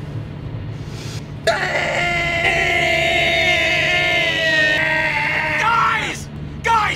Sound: screeching

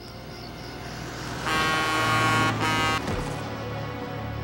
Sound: car horn

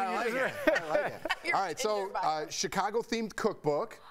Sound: laughter

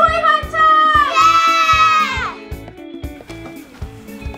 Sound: cheering; upbeat music

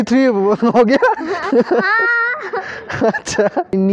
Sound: laugh

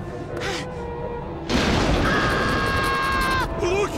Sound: panting; screaming

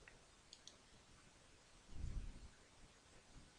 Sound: click

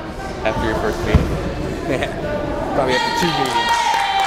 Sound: crowd murmuring

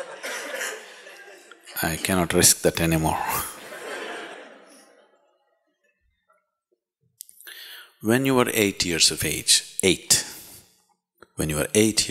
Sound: laughter; laughter

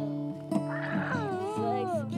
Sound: cooing

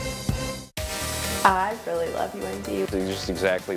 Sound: voiceover

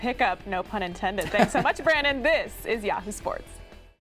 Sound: laugh

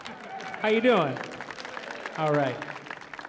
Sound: audience applauds lightly

